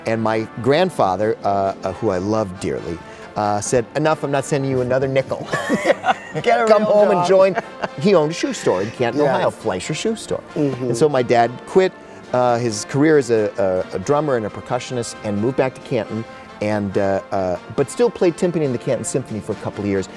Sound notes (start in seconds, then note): 5.4 both laughing